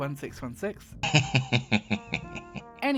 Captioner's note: giggling